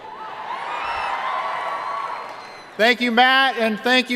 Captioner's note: cheering